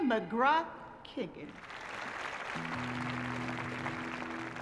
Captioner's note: applause